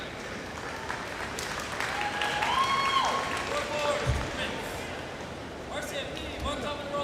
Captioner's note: crowd cheers